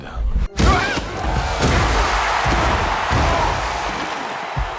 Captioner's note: crowds cheering